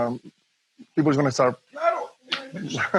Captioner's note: laughs